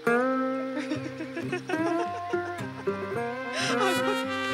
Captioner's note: Laughter